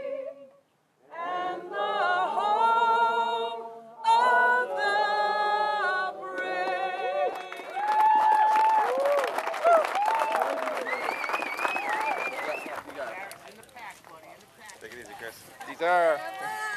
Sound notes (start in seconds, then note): 7.3 applause